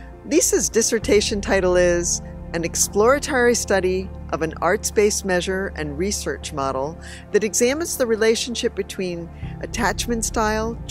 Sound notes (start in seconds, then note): none